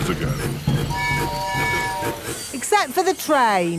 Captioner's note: train tooting